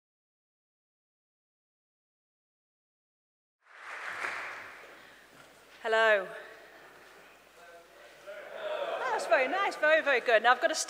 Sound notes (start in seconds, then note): 3.6 applause